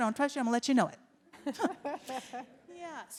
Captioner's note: audience laughs